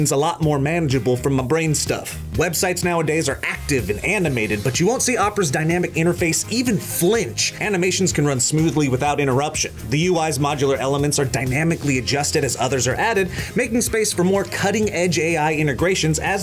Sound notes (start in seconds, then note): none